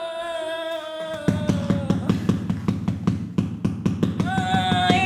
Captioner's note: hammering continues